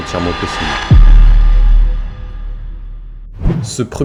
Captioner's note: overly dramatic boom.mp3